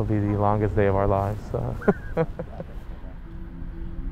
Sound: laughs

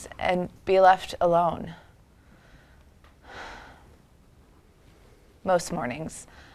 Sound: deep sigh

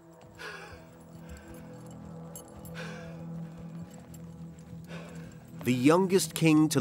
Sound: tense ambient music; Ying Zheng panting

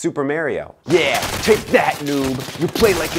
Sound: rapid gunfire

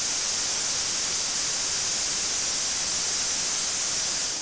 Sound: none

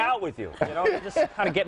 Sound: laughter

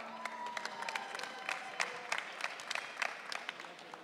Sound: audience cheering

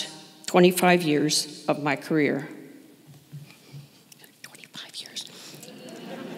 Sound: whispers

